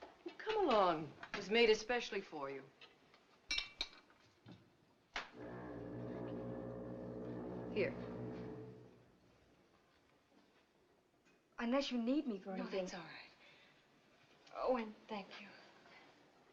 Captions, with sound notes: Come along. It was made especially for you. [Foghorn Continues] Here. - Unless you need me for anything- - No, that's all right. Oh, and thank you.